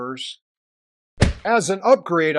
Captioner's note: splap